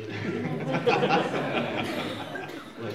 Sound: laughter

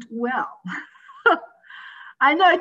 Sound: chuckles

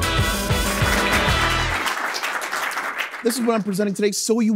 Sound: applause

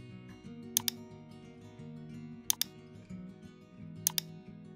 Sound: keyboard clicking

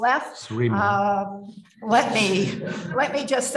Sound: mumbles; audience laughs

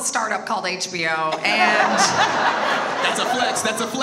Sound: audience laughs

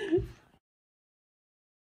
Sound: child laughing

